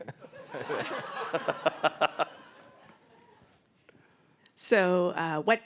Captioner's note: laughter